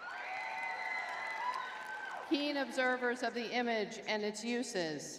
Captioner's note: crowd cheering